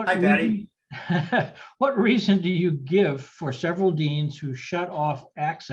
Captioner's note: laughs